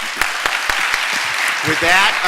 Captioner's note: applause from audience